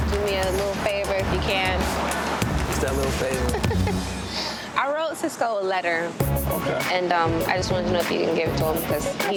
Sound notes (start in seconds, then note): 3.2 laughing